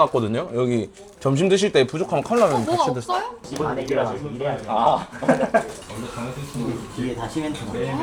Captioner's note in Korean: 웃음